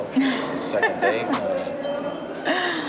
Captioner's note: laughs